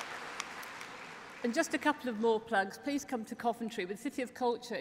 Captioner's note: applause